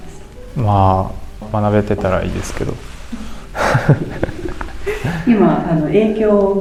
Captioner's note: laughs